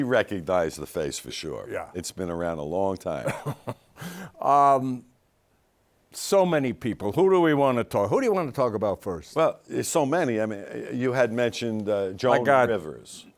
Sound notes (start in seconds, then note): 3.2 laughs